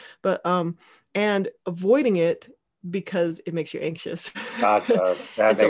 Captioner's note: laughing